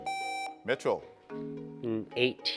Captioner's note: buzzer beeps